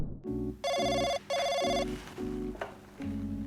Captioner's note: telephone rings